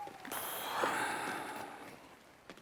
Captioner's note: daniel sighs